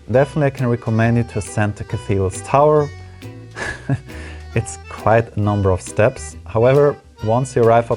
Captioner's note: giggle